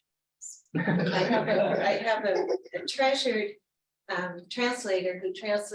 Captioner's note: laughter